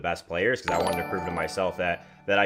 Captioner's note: graphic chiming